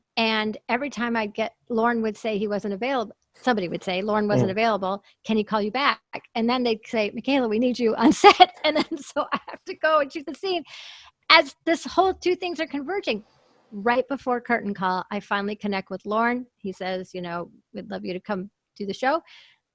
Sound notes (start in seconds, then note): 8.1 laughs